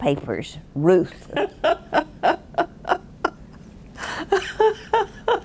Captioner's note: laughing